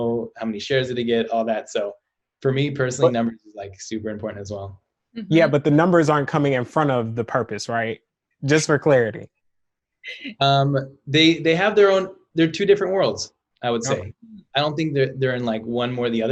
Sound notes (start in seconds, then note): 9.4 chuckles